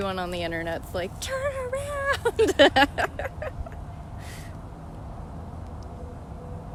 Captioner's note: laughter